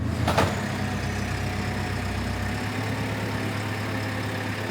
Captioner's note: machinery rumbles